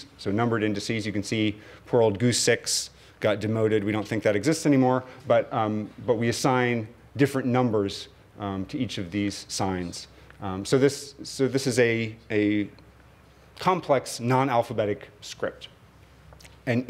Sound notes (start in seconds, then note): 2.1 non-english speech